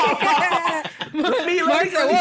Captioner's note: laughter